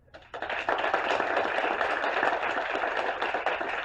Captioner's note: applause